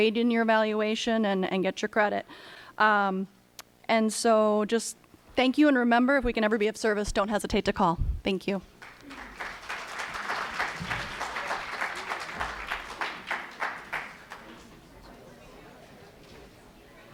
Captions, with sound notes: trade in your evaluation, and get your credit. And so just thank you and remember if we can ever be of service, don't hesitate to call. Thank you. (applause)